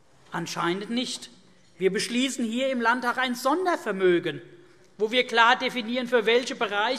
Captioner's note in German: none